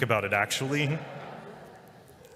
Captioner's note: laughter